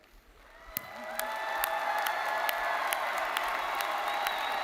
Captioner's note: audience cheering